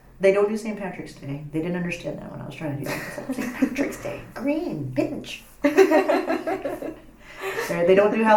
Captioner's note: laugh